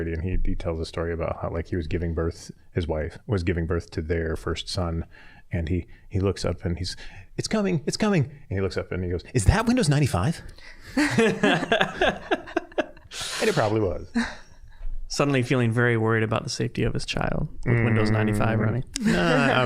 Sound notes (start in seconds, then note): 10.9 all laughing